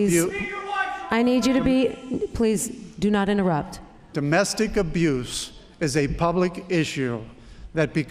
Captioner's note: yelling